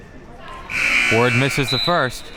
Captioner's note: buzzer rings